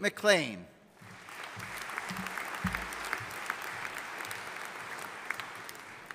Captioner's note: audience applauding